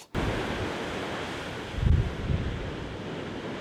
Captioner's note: waves and wind